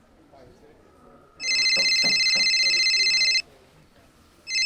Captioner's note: phone rings